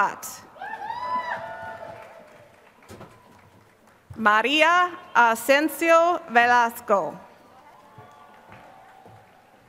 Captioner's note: applause